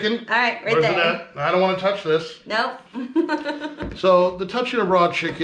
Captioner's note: chuckling